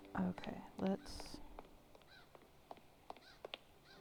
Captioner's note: none